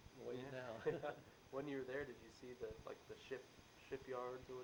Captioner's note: both chuckle